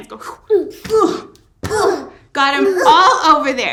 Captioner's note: group growling